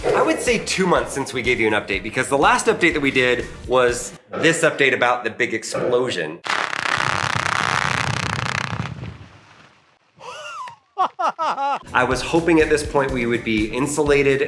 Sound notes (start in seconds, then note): 6.4 ground crackling; 10.2 laughing